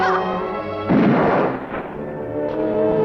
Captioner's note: gunshot